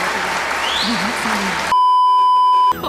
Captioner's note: immense applause and cheering